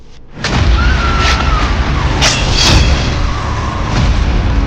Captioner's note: dramatic music; Betty screams; dramatic music